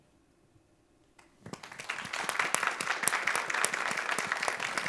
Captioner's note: all applauding